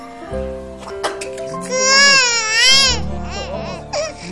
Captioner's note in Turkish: Bebek ağlar